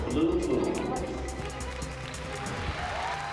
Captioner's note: applause and cheering